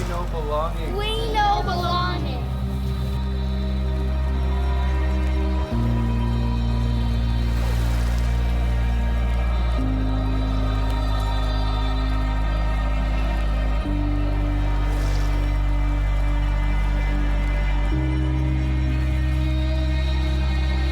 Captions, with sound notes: - We know belonging. - We know belonging. (stirring music continues) (water lapping continues)